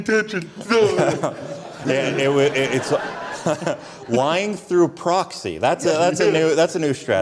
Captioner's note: audience Laughter